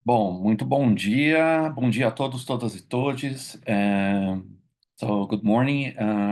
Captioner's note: speaking in Portuguese